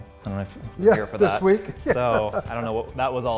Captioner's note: laughing